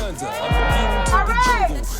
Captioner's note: crowd cheering